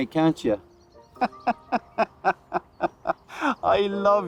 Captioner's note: Noel laughs